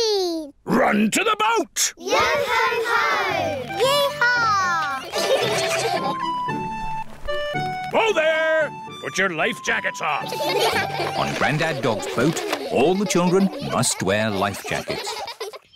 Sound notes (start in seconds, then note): 5.0 all giggle; 10.2 all giggle